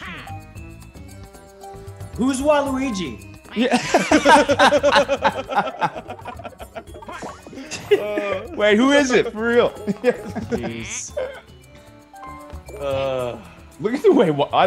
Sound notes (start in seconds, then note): 3.7 laugh